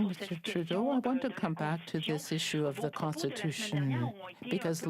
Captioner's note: speaking French